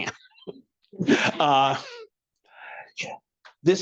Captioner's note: laughing